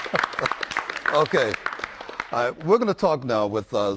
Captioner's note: applause